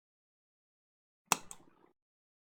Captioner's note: click